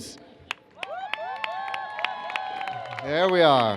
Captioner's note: cheers